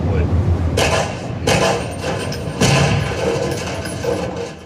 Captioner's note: steady gunshots